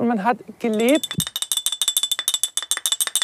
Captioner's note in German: Klimpern